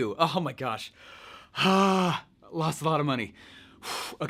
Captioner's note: groans